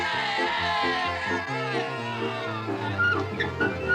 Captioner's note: audience cheers